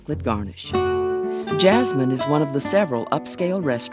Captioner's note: voiceover